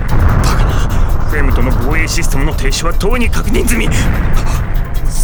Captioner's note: gasp